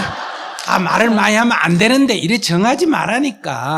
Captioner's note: audience Laughter